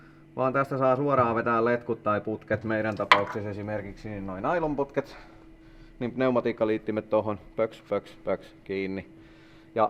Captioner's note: plop plop plop plop